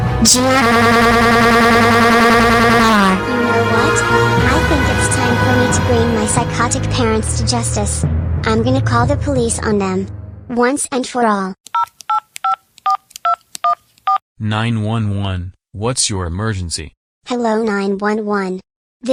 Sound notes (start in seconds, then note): 11.7 cell phone dial